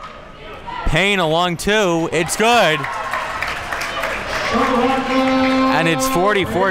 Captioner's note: crowd cheers